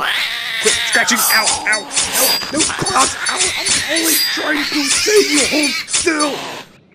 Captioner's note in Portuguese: Gritos de dor